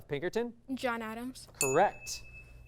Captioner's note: ding